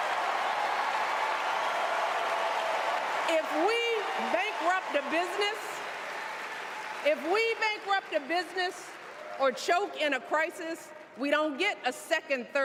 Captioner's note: cheers and applause